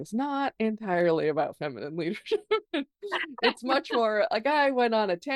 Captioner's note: laughs